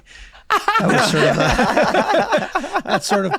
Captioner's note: Megan, Glenn laughing